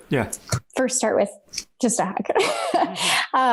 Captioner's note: laughs